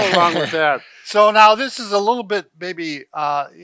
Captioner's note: laughs